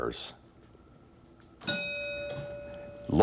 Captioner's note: bell dinging